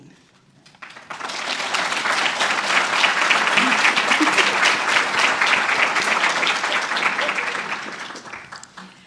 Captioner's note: applause